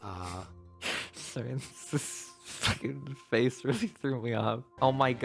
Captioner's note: stifled chuckling